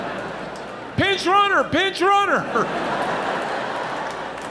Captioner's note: audience laughing